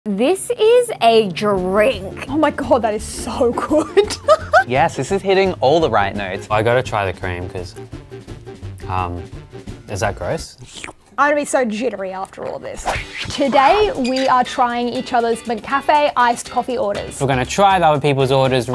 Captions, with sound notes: - This is a drink. - Oh my God, that is so good. (laughs) - Yes, this is hitting all the right notes. - I gotta try the cream 'cause, is that gross? (slurps) - I'm gonna be so jittery after all this. Today we are trying each other's McCafé iced coffee orders. - We're gonna try other people's orders